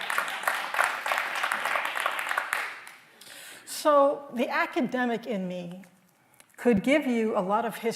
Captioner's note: applause